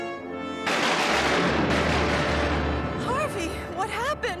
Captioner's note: thunder crashes